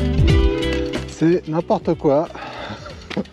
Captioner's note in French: rires